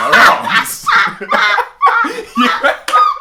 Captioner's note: laugh